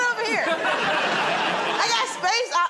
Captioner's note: laughter